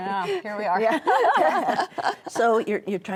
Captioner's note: all laughing